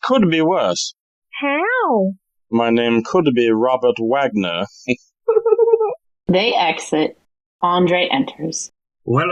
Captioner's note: HELENE giggles as they exit and ANDRE enters